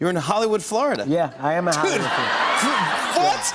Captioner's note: laughter